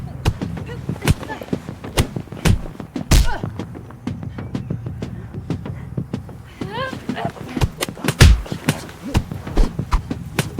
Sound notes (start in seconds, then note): 6.3 yelling